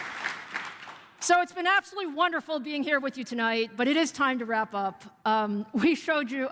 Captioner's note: applause